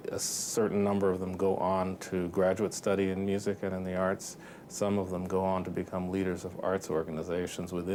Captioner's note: none